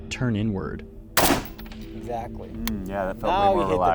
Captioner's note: gun fires